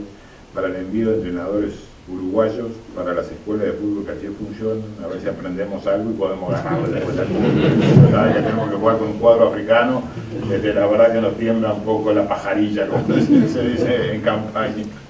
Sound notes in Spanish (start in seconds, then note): 6.4 risas